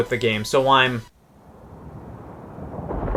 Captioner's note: thunder sounds